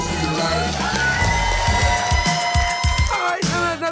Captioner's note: screaming